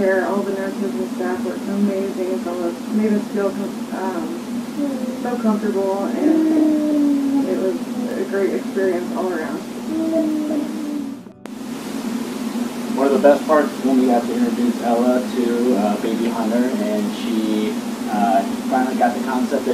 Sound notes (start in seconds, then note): 9.6 gurgling